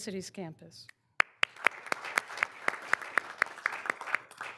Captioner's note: all applauding